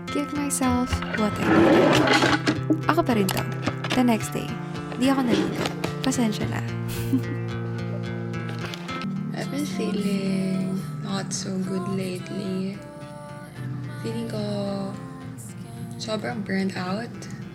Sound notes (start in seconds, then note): 6.9 laugh